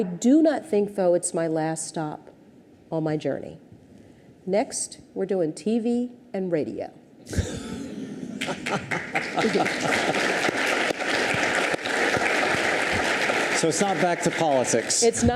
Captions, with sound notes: I do not think, though, it's my last stop on my journey. Next, we're doing TV and radio. (audience chuckles) (audience applauds) - So it's not back to politics?